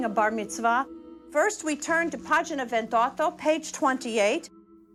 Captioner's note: speaks in foreign language